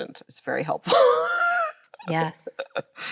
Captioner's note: Chloe laughs